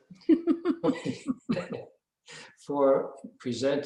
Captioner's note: both laughing